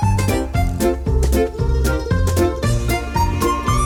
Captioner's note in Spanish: ronroneos